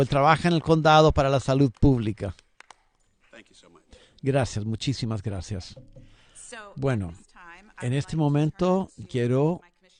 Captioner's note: applause